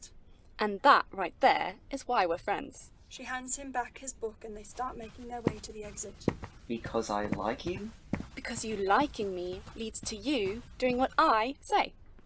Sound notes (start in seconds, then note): 7.5 footsteps